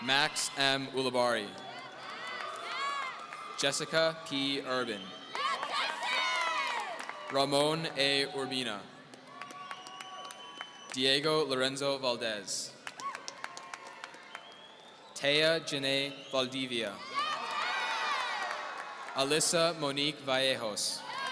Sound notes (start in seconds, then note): 17.0 audience cheering